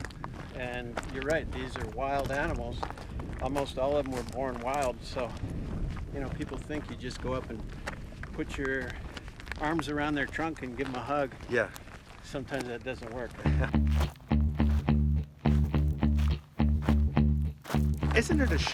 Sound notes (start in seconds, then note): 13.4 chuckling; 15.2 determined music